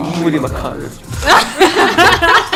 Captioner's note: sniffle TT